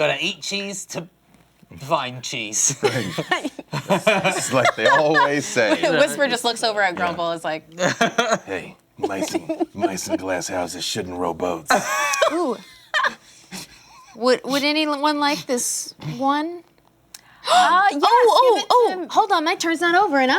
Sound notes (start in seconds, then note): 2.8 laughter; 9.0 laughs; 11.7 laughter